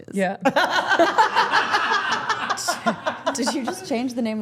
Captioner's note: everyone laughing